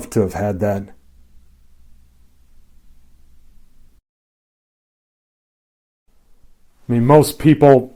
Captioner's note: silence